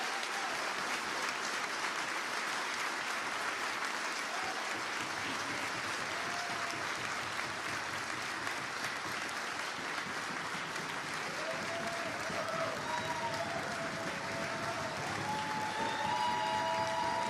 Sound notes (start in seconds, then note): 3.7 applause